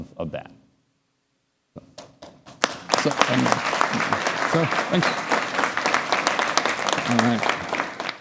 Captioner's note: applause